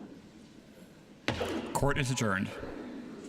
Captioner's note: sounding gavel